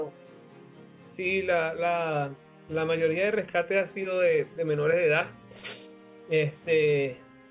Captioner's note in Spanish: resoplido